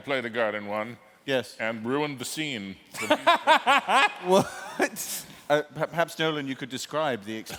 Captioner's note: laughter